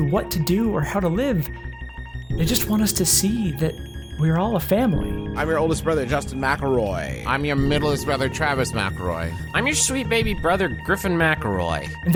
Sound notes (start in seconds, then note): none